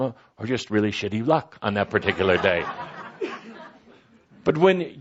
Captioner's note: laughter